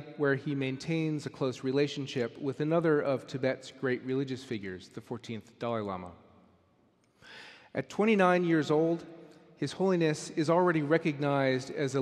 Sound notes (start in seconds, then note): none